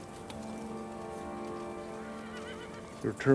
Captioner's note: horse neighing